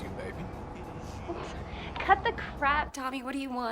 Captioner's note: Nicki scoffs